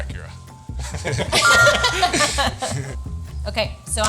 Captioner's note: everyone laughing; text chiming brightly